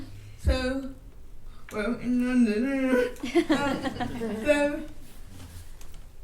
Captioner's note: attendees laughing